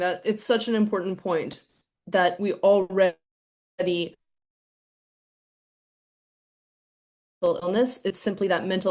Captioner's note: audio drops